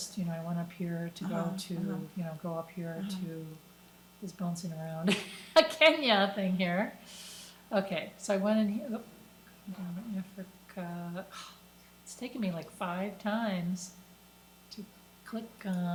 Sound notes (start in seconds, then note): 5.4 laughs; 11.3 sighs